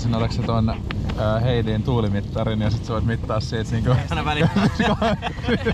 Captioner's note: wind